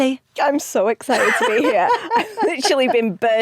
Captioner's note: Giovanna laughs